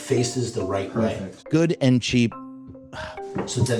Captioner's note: frustrated sigh